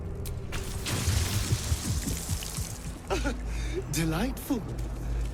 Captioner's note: blood falling